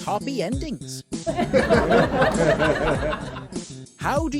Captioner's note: laughter